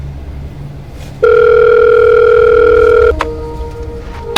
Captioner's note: dramatic music; phone ringing